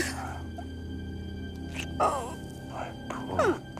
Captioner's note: kisses